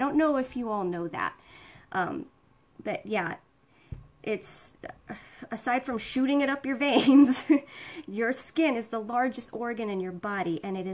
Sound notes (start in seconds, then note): 7.6 laughing